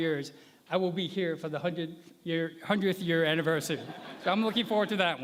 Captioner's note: laughter